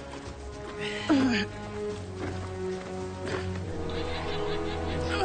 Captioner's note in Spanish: Quejido